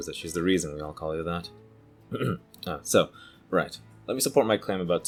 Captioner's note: ahem